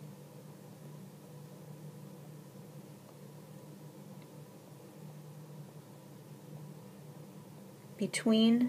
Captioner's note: pause